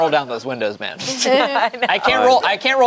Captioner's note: group laughs